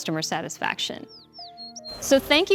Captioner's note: bird chirping